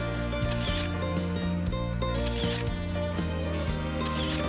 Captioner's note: camera clicks